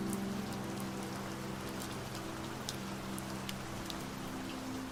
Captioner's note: raindrops splashing